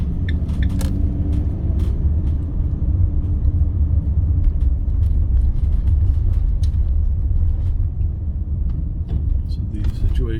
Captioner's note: car engine roaring